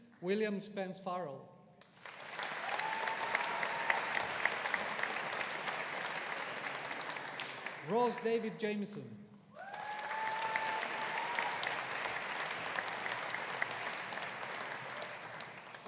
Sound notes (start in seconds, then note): 1.9 audience applauding; 9.5 audience applauding